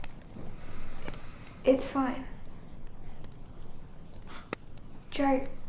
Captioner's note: relieved sigh